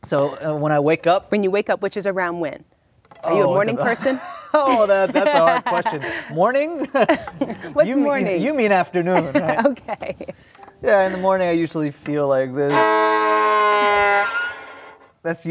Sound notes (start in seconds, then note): 7.3 laughs; 12.9 low depressed tone